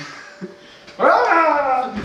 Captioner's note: yells